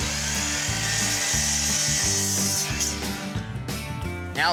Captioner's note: sawing